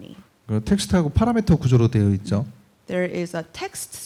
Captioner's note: speaking korean